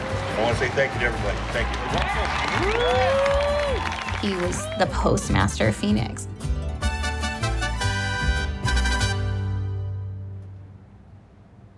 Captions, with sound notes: I want to say thank you to everybody. Thank you.” [APPLAUSE AND CHEERS] He was the postmaster of Phoenix.